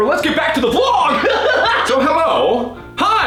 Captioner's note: wacky laughing